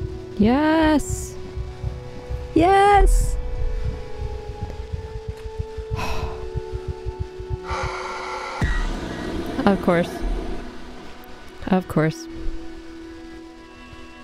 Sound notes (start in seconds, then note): 4.9 heart beating; 7.7 demonic roar